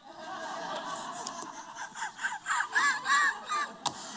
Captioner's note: laughter